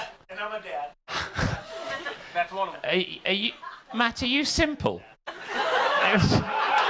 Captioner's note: audience laughing